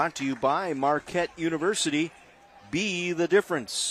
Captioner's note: applause